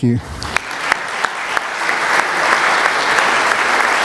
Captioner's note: applause